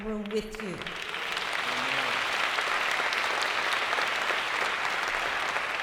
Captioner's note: applause